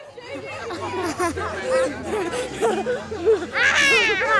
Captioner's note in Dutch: gelach